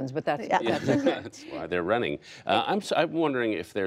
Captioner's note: laughter